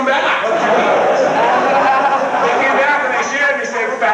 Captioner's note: crowd laughs